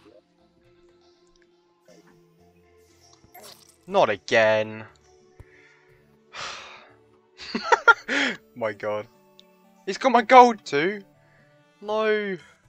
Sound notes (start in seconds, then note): 5.3 sigh